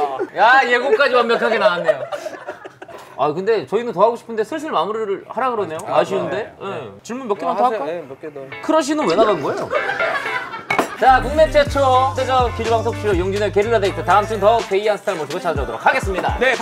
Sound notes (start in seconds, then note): 0.7 laughing